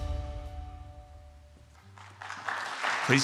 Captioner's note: applause